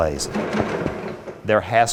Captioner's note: construction equipment clunking